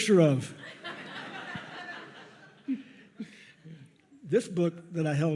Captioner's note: audience laughs